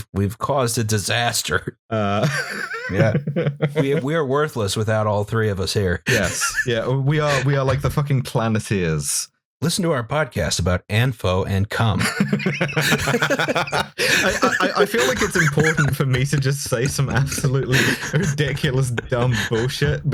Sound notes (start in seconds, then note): 2.1 laughter; 12.0 laughter